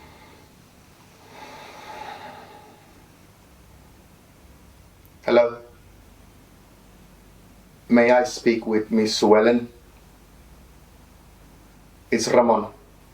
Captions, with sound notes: (Ramon sighing) Hello. May I speak with Miss Suellen? It's Ramon.